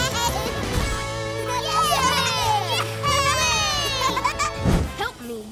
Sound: cheering; cheering

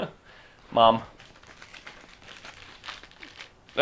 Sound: paper crinkling

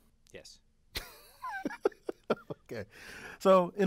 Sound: laugh

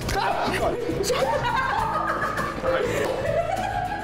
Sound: laughing

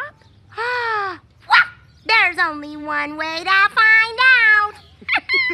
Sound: gasps; both laugh

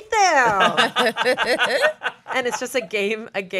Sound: everyone laughs

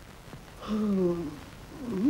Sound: yawning

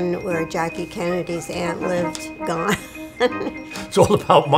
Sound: laughs

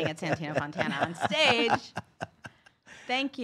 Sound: laughing

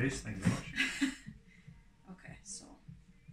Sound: laughs

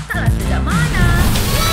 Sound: kids cheering

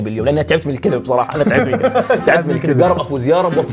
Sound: laughter

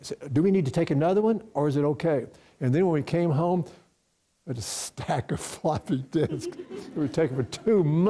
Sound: chuckles

